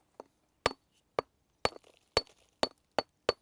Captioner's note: sound of hitting stone